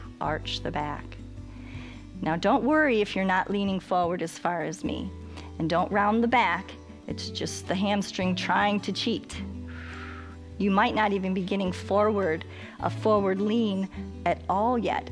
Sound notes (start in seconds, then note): 9.6 exhales